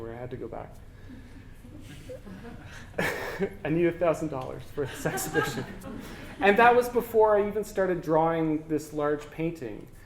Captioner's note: audience: Laughter